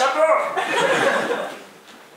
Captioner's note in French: Rires